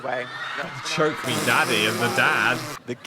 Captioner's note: audience cheering; scoffing